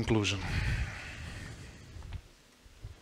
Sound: sighs

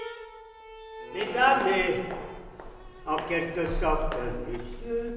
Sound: man speaks foreign langauge

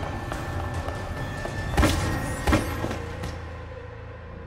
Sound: thudding

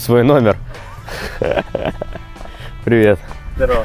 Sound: laughing

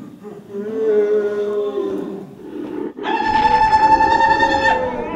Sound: moaning; screaming

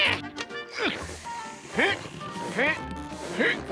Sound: grunting

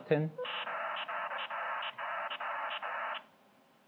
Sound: beeping modem signal sounds

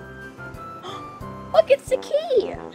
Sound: assistant gasping

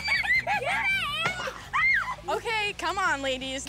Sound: screaming

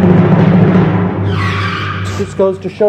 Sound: screeching brakes

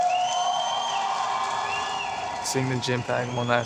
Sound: cheering

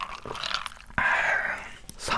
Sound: exhale

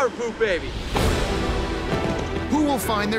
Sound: fireworks popping

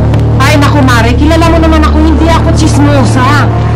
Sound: none

